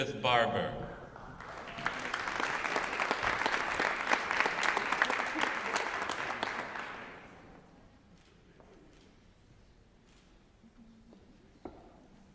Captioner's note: applause